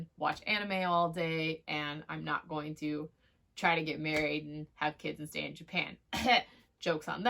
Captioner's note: coughs